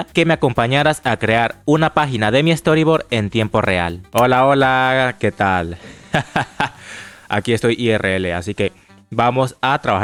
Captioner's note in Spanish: risas